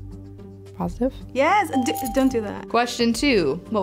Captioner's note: testily